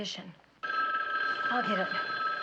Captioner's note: phone ringing